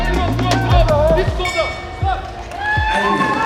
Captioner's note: bell; applause